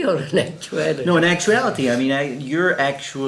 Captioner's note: laughs